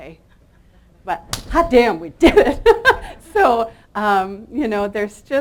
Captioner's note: claps hands; chuckles